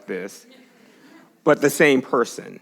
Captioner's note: congregation laughs